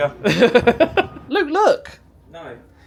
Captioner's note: laughs